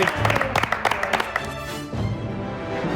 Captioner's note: applause